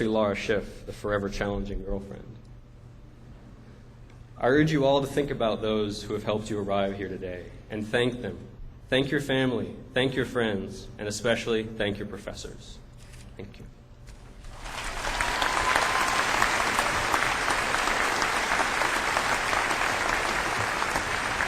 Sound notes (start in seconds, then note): 14.5 cheers and applause